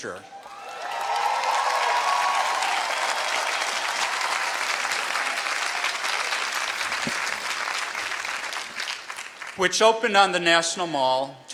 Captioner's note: applause